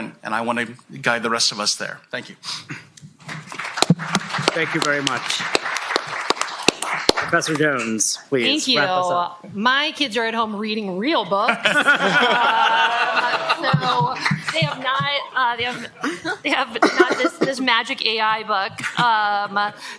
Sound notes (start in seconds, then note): 3.2 applause; 11.4 laughter